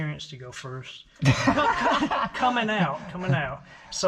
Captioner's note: everyone laughing